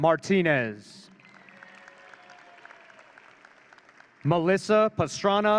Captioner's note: audience cheering